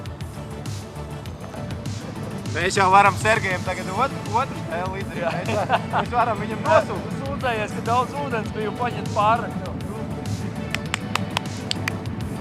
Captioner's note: chatter; clapping